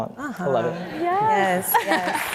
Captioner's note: laughter; applause